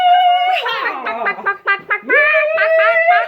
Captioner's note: chicken noises